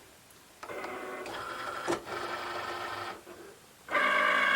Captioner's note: machine whirls